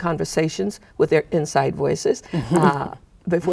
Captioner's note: chuckling